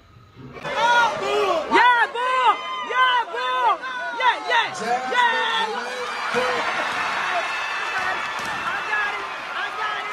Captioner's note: incoherent cheering and whooping